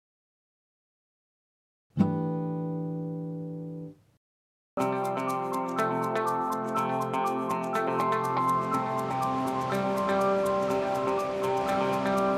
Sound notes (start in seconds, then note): 4.8 bright music; 8.6 water rushing